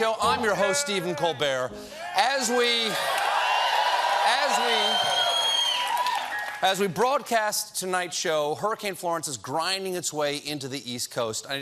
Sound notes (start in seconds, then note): 1.9 cheers and applause